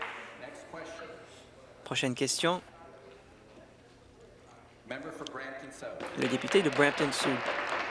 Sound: applause

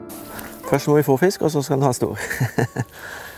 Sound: giggle

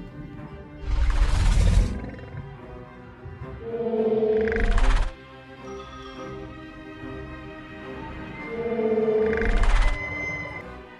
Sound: mosasaurus Sounds

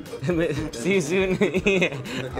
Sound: laughs

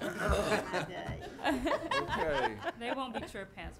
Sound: some laughing

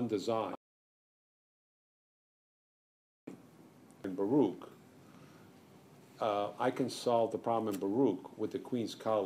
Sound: no audio

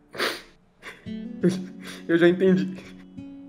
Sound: crying

